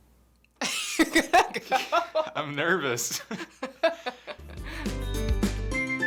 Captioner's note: laughs